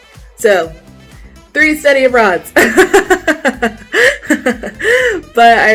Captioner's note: laughs